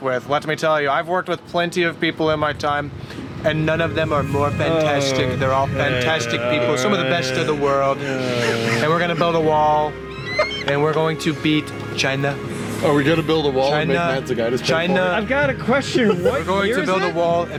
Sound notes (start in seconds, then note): 10.0 bald eagle laughs